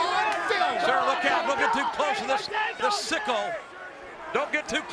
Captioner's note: presenter speaking faintly off mic